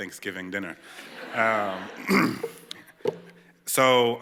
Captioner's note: laughter